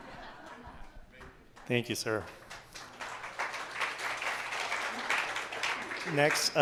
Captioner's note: applause